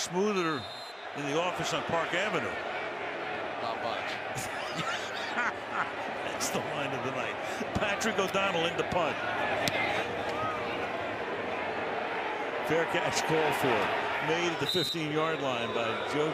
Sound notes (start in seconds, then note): 4.4 laughter